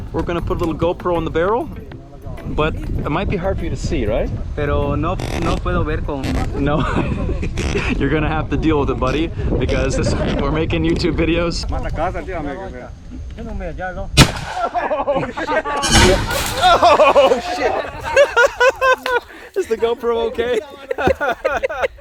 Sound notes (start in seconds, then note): 4.7 speaking Spanish; 12.2 speaking Spanish; 14.6 chuckling